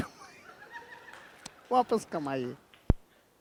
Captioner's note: laughing